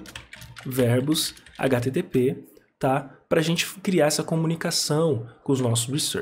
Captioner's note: typing